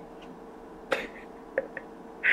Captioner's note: chuckles